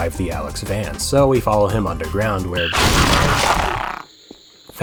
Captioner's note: squelch